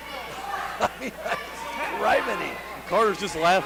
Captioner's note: laughs